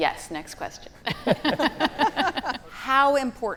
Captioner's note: panelists laughing